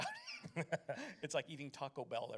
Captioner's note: laughs